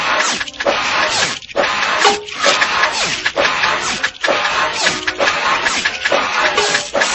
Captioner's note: machines grinding and squeaking